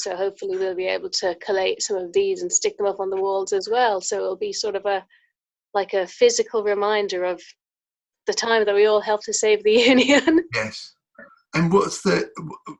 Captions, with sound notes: So hopefully they'll be able to collate some of these and stick them up on the walls as well. So it'll be sort of a, like a physical reminder of the time that we all helped to save (laughs) the Union. - Yes, and what's that like?